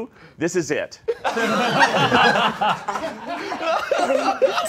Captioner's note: all laughing